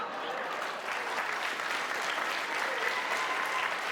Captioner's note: applause, scattered cheers